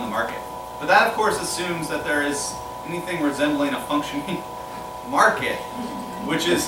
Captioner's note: laughter